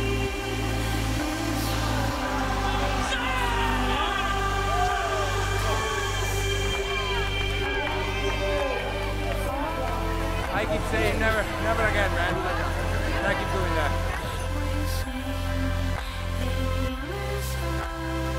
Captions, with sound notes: (man yells) - I could tell you, never again, man, what I could do with that.